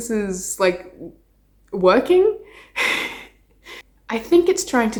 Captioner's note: laughing